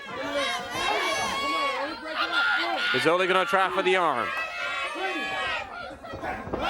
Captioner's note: crowd chatter